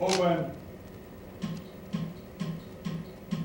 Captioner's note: clicks